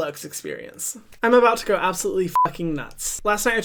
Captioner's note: beep